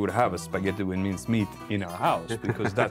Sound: laughter

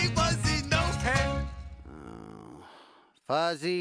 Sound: Lionel groans

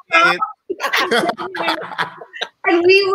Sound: all laughing

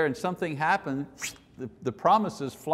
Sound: whistle

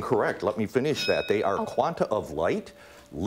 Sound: dings

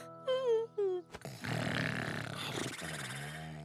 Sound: yawns, snores

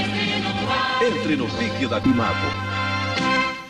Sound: male announcer speaking Portuguese

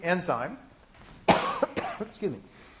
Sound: coughing

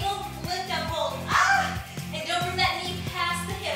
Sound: screams

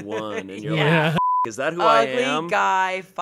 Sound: beep

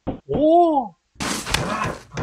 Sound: crash

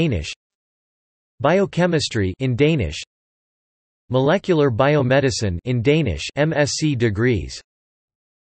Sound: in Danish; in Danish

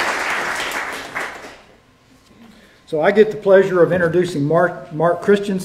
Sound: applause

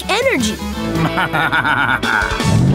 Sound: laughing

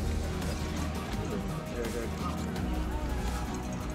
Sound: aids chattering

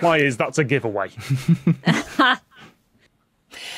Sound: snickers

